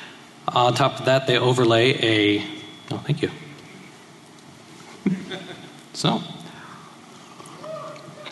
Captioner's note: laughter